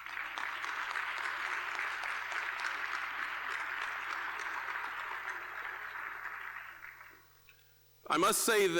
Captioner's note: applause